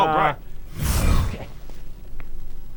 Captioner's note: whoosh!